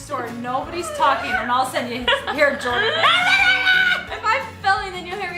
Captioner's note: screams